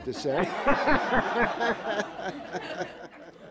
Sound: laughter

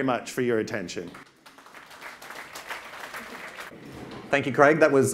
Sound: audience claps

